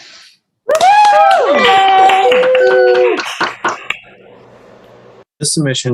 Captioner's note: applause